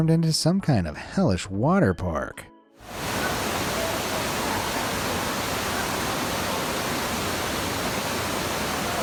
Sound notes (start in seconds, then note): 2.8 water roaring continues